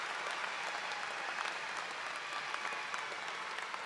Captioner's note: cheers and applause